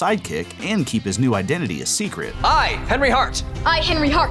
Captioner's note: none